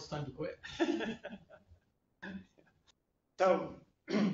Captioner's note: laughter